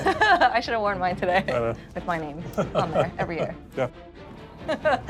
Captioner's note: laughs